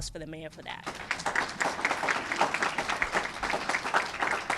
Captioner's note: applause